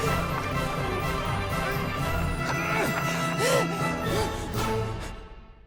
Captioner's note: Pete labored breathing